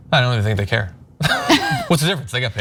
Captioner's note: laugh